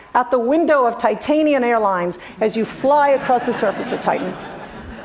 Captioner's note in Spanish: Risas